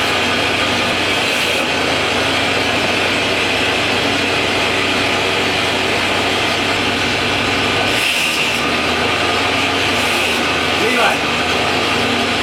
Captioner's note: scribe noise